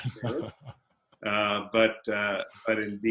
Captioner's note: laughing